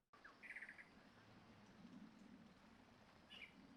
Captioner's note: birds chirping